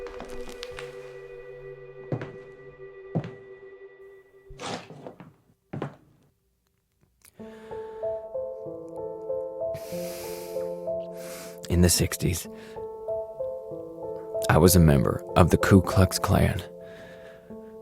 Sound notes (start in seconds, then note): none